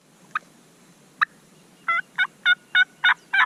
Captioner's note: turkey calls